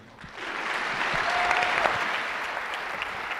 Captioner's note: clapping